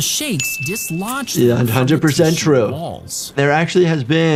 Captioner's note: bell dings